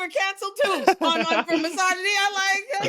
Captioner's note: both laughing